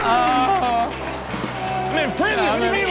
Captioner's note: baby cries